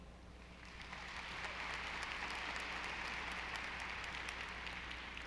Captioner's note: audience applauding